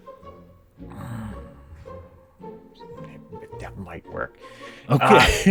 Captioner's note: grumbling to himself